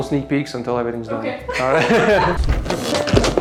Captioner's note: both laughs